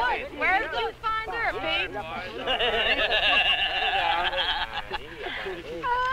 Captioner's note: Pete laughing like a hyena